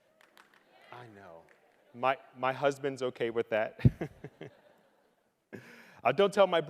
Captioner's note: chuckling